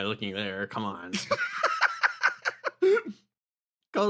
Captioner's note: laugh